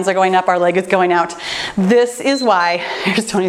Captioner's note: timer beeps